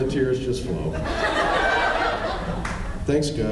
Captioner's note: laughs